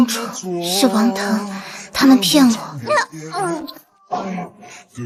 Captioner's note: sobbing